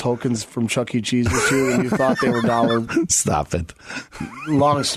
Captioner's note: laughing